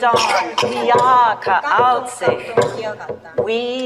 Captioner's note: speaker speaking in foreign language